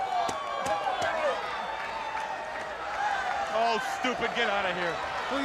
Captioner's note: crowd chatter